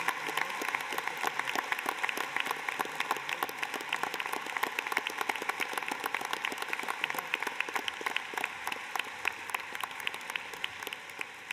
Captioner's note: cheers and applause